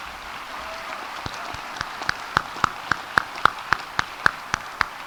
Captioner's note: audience applauding